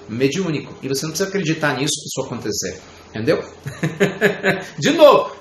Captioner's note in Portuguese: Risos